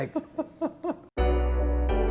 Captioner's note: laughing